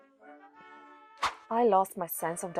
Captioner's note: swoosh!